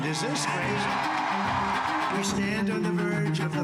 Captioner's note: cheers and applause